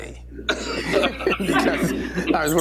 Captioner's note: laughter